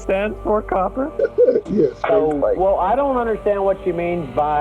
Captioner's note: laughs